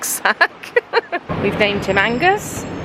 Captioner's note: laughing